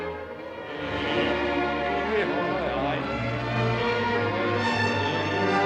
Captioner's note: humming along to melody